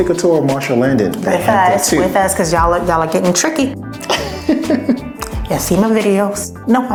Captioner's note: laughs